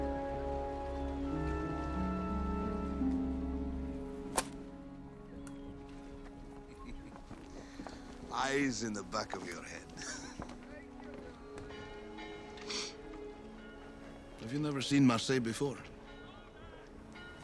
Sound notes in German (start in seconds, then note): 6.6 Kichern; 11.4 Glockenläuten